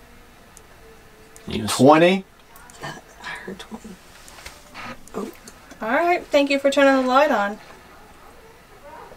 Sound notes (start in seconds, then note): 3.4 flashlight turns on